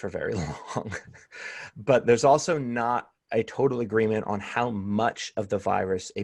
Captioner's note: laughter